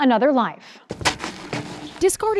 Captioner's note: tires thudding